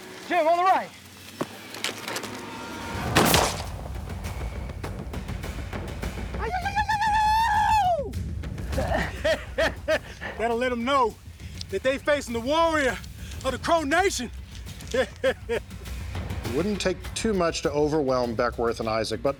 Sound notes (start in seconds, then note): 3.0 gunshot; 6.4 cheering; 8.7 laughs; 14.7 laughs